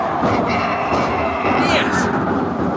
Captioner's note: donkey braying